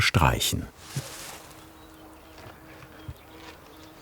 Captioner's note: A single bee buzzes